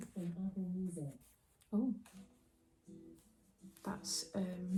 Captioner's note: alexa starts talking and playing music